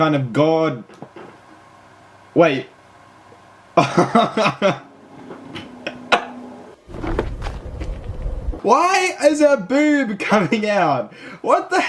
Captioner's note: laughs